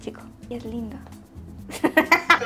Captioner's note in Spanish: ríe